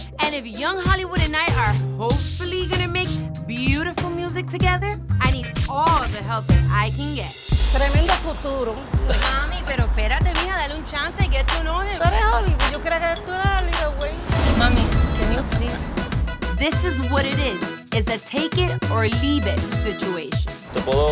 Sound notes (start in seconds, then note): 7.9 speaking Spanish